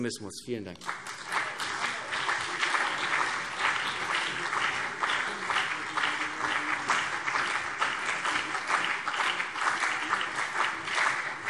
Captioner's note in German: Beifall CDU und BÜNDNIS 90/DIE GRÜNEN